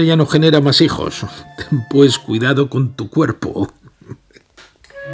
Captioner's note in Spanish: risas